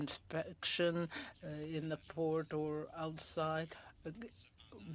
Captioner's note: speaking French